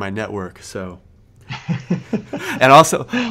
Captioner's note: both laughing